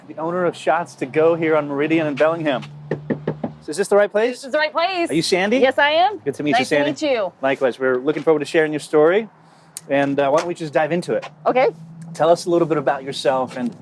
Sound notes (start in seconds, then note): 2.8 knocking on door